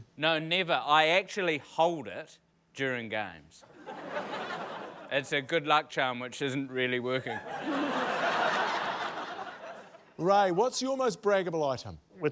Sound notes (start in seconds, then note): 3.7 laughter; 7.2 laughter